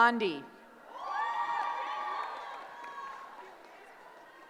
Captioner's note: cheering